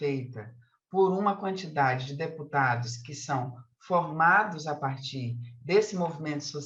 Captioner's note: continues speaking in Portuguese